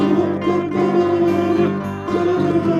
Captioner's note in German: quietsch